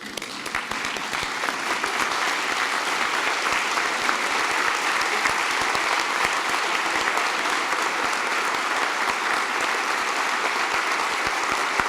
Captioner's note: applause